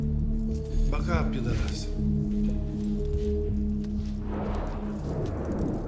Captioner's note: speaking foreign language